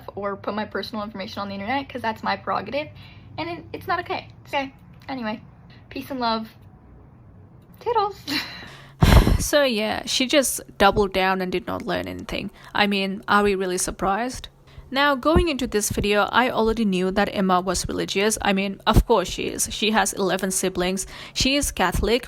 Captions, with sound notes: or put my personal information on the internet because that's my prerogative and it's not okay. Okay. Anyway, peace and love. Toodles! (laughs) (sighs) So, yeah. She just doubled down and did not learn anything. I mean, are we really surprised? Now, going into this video I already knew that Emma was religious, I mean, of course she is. She has 11 siblings. She is Catholic.